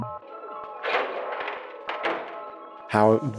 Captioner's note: latching clicking